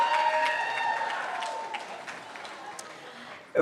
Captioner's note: cheering